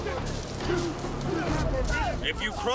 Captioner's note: speaking Tahitian